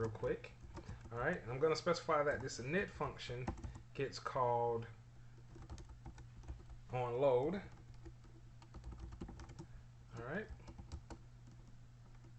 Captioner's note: typing sounds